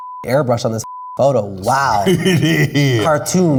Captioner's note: laughs